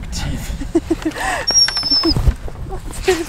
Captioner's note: Caesar is whimpering